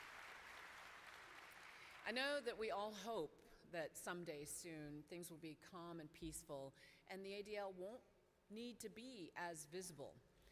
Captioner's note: applause